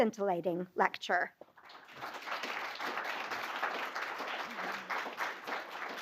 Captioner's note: applause